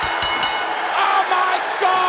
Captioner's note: bell ringing